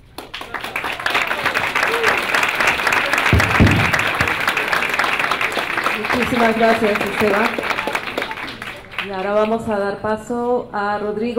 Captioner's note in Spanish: Aplausos